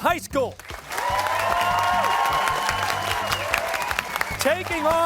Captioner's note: cheers and applause